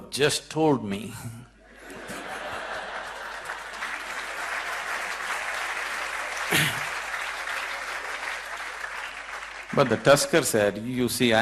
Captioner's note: laughter & applause